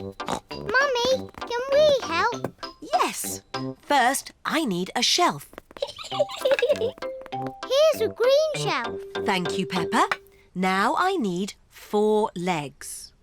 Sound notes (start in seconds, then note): 0.2 snorts; 5.7 giggles